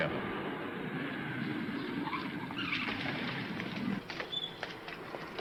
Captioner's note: tires squealing